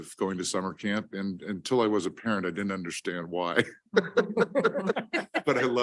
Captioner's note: laughs